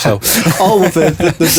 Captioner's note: both laughing